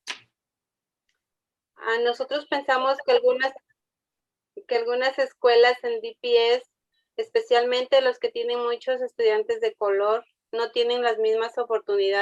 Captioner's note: speaking Spanish